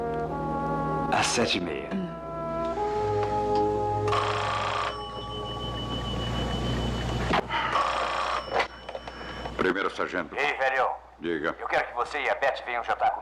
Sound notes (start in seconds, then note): 4.0 phone Ringing